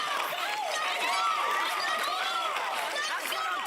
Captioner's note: cheers and applause